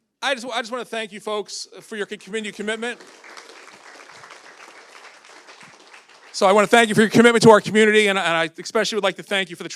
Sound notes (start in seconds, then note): 2.4 audience applauding